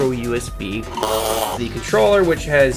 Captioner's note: blowing raspberries